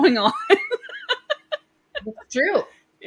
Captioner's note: laughs